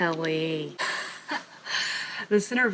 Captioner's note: laughs